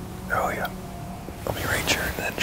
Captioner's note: whispering